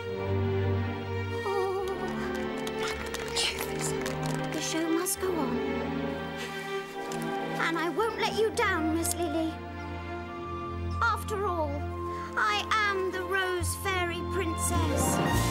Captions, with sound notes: [WHISPERING] "Magnificent." "The show must go on. And I won't let you down, Miss Lilly. After all, I AM the Rose Fairy Princess!"